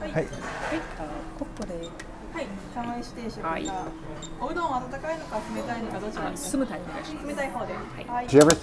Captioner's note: ordering items in Japanese